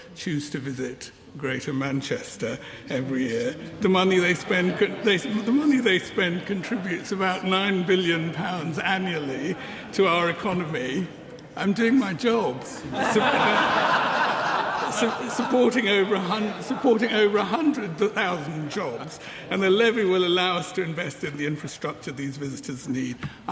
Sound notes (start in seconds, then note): 12.8 laughter